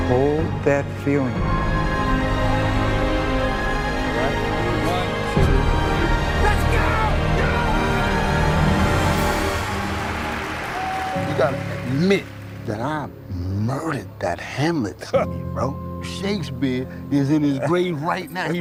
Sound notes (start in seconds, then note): 2.1 triumphant music continues; 7.4 men shout excitedly